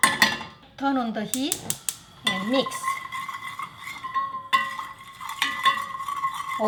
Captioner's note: pan clanging